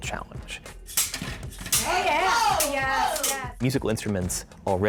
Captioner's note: all cheering